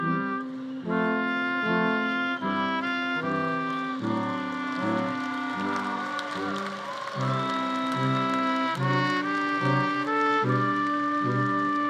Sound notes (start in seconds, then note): 4.9 audience applauding; 4.9 audience cheering